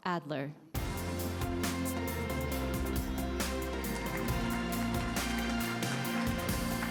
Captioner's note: award show music; attendees applauding